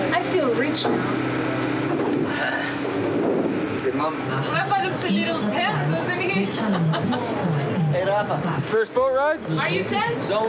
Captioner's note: speaking In Foreign Language